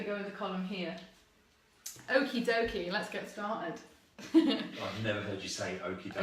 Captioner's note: laughs